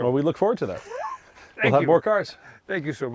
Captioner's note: laughs